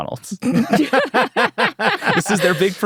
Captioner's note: everyone laughing